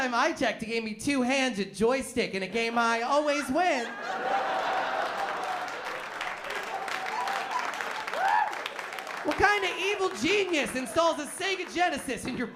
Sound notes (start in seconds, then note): 3.6 laughter